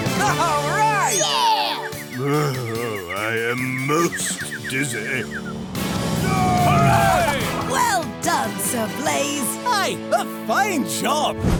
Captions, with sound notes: -All right! -Yeah! Oh, I am most dizzy. [cheering] -Well done Sir Blaze! -Aye, a fine job!